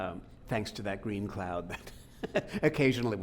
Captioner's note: laughing